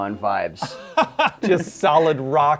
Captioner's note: laughs